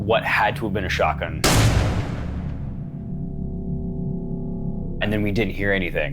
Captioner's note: gunshots fired